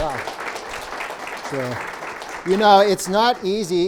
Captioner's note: clapping